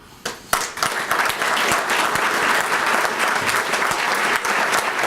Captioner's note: applause